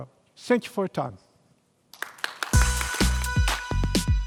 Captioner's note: applause